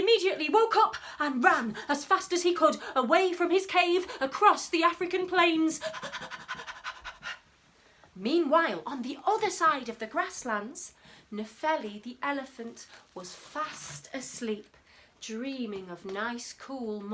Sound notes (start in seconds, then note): 5.8 panting